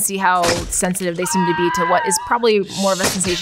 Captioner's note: Harry screams